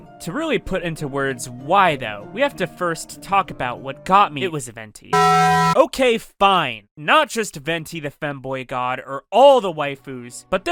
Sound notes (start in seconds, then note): 5.2 gay taco bell sounds